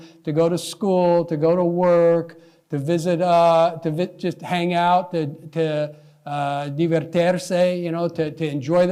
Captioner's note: non-english